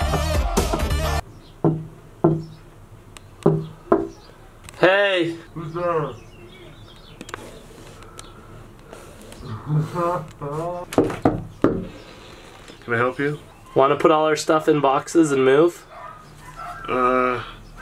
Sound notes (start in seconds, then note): 10.9 knocks